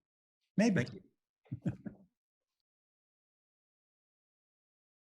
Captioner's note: giggling